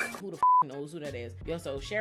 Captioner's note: beep